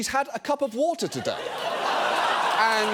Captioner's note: audience laughing